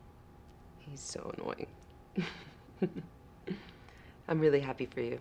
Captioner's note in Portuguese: risos